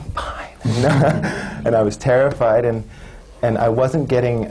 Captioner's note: laughs